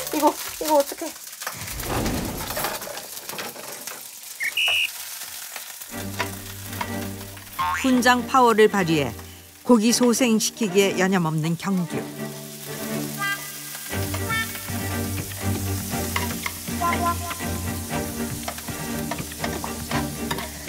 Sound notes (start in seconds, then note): 1.8 crackle, crackle, crackle, crackle